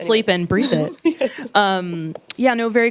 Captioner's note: laughs